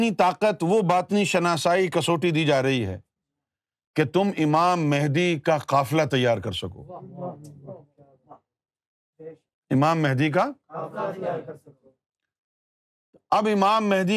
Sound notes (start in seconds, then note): 10.8 audience repeats